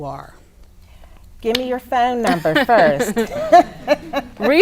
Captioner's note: laughs